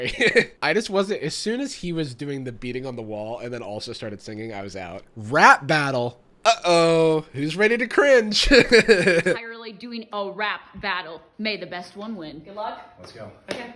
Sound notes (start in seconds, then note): 8.3 laughs